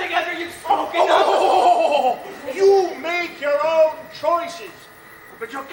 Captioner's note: scoffs